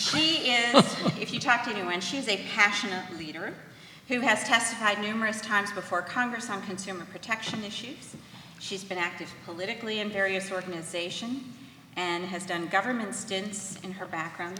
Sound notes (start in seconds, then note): 0.0 laughs